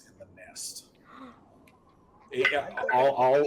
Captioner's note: person gasping